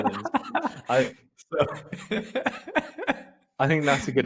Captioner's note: both laughing